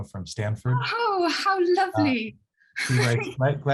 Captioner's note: laughs